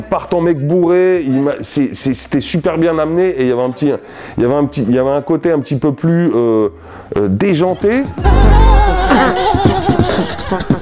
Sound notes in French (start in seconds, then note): 8.2 beatbox